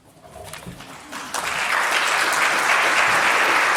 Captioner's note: clapping